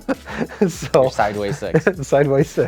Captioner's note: laughing